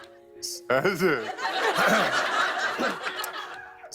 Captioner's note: laughs; laughter